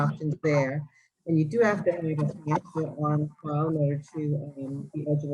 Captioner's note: audio distortion